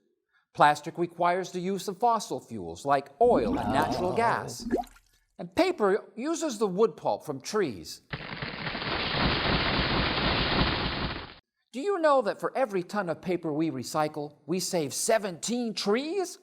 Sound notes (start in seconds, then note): 4.6 plop!; 8.8 sound of trees falling down